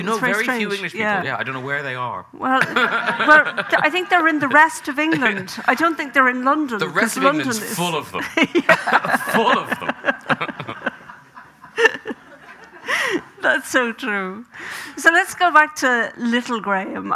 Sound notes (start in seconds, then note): 2.5 laughs; 2.5 audience laughing; 8.2 laughing; 11.0 both laughing